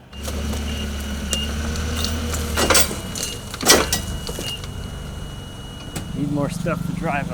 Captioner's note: fork truck beeping; fork truck motor humming